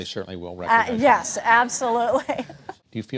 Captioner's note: laughter